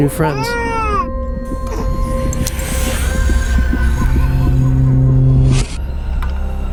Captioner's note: heartbeat, eerie ambience